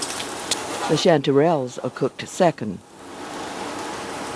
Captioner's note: voiceover